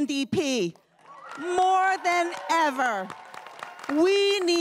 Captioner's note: everyone cheering and applauding